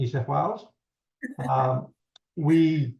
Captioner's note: laughs